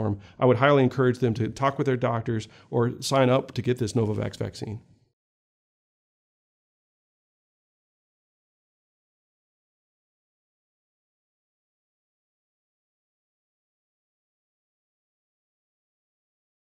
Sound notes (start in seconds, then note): 4.9 silence